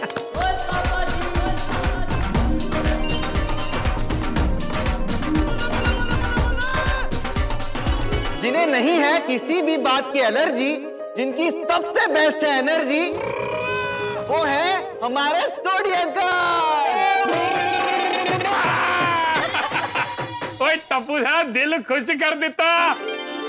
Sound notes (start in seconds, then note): 0.2 upbeat music playing; 16.6 cheering